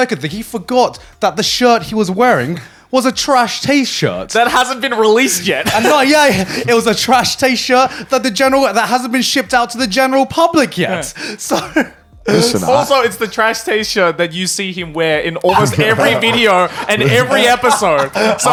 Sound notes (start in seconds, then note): 5.5 laughing; 12.2 laughing; 15.4 laughing